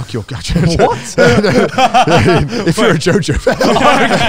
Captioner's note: all laughing